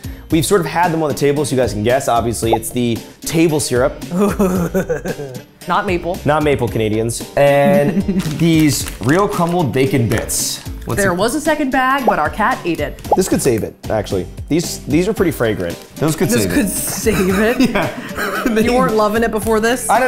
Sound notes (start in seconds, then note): 7.6 Safiya laughing